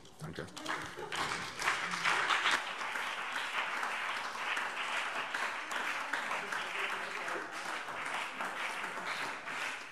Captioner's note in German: Beifall SPD und BÜNDNIS 90/DIE GRÜNEN